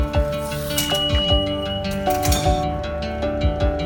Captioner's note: lively, melodic music; gate beeps